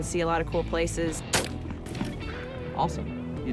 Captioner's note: gunshot